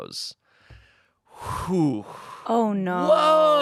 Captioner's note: sighs